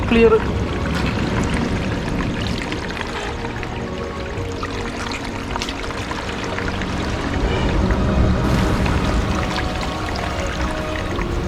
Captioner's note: trickling of water